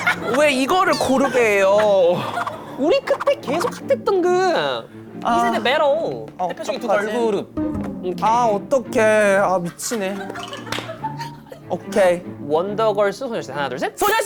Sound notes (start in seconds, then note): 2.9 Scratch